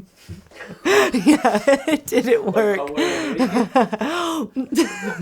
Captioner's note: laughs